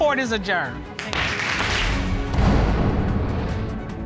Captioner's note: pounds gavel